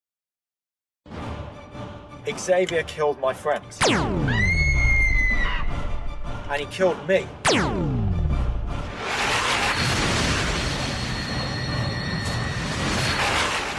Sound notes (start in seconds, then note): 3.8 laser blast; 4.2 river song screaming; 7.4 laser blast